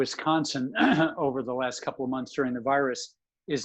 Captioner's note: clearing throat